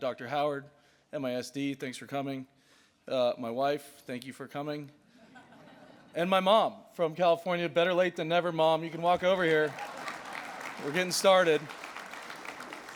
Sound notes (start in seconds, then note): 5.1 laughter; 8.9 audience clap and laugh